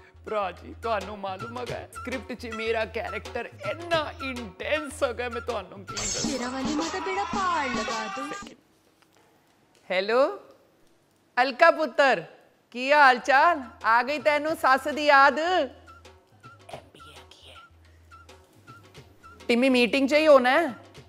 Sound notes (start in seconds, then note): 6.4 phone ringing